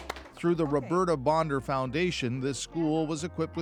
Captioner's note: applause